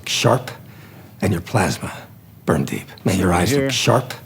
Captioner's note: movie dialogue plays